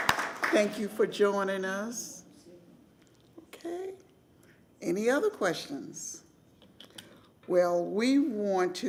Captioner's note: applause